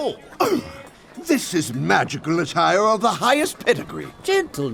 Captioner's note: gasp